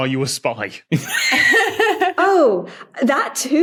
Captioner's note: laughs; wheezes